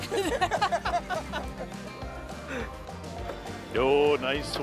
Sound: laughing

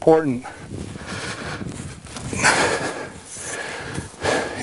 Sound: straining

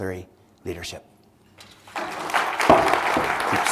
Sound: applause

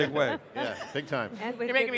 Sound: all laughing

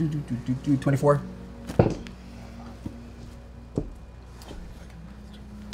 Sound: none

